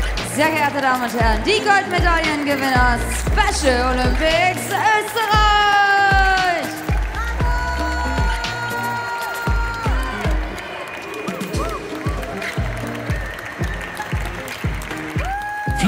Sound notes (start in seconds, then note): 8.4 someone in the audience shouts loud "bravo"; 11.9 applause; 11.9 ♫ Midtempo guitar music ♫